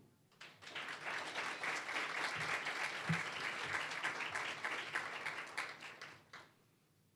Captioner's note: applause